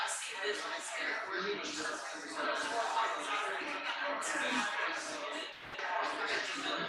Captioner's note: people chattering indistinctly continues